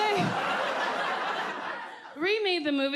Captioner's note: audience laughs